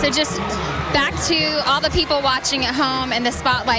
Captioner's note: cheering